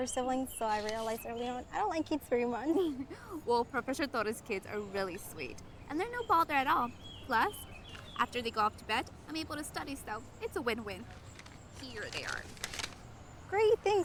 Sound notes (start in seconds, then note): 2.6 laughs